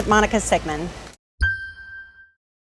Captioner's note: logo dings